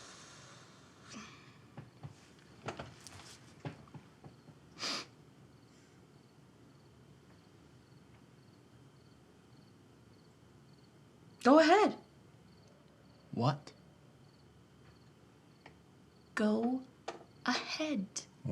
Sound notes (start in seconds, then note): 0.0 Tania exhales deeply; 4.8 Tania sniffles